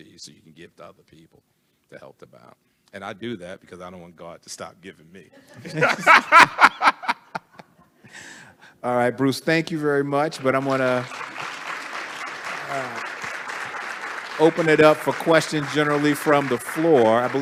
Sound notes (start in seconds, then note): 5.6 everyone laughing; 10.2 attendees applauding